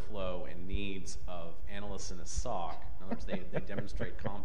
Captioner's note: panelists chuckling